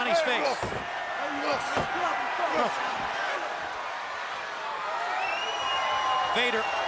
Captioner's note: crowd cheering